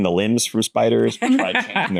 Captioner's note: laughs